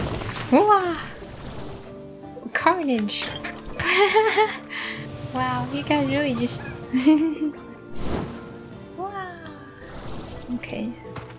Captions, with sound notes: Wahh! Carnage! (laughter) Wow, you guys really just- (laughter) Wahh! Okay